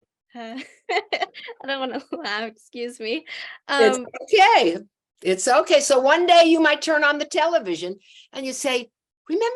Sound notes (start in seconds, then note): 0.5 laughs